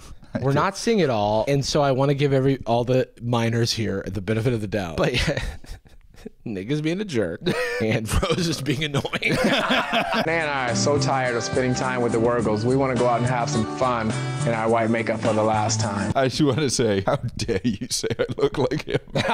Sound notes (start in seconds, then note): 7.4 chuckles; 9.3 laughter; 17.8 laughter